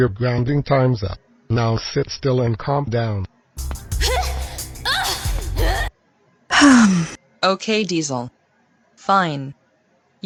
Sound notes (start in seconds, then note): 3.9 grunting; 6.5 sighs